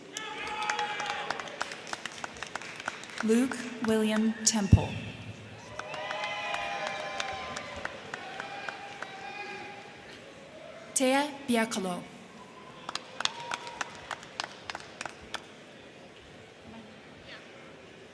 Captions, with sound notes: (crowd cheering) (crowd clapping) Luke William Temple. (crowd cheering) (crowd clapping) Thea Bjerkelo. (crowd cheering) (crowd clapping)